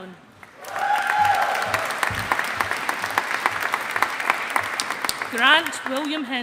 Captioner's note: audience applauding